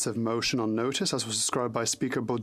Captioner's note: speaking French